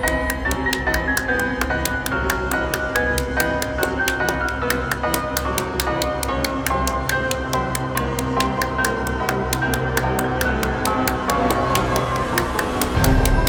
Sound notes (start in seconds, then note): 2.9 Morty clapping; 2.9 creepy circus music; 12.8 Morty clapping; 12.8 creepy circus music